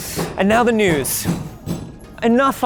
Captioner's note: hammering